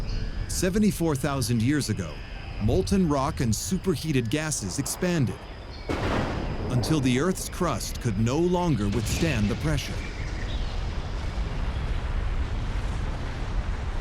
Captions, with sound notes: Seventy-four thousand years ago, molten rock and super-heated gases expanded, [thunder] until the earth's crust could no longer withstand the pressure... [deep rumble] [birds singing]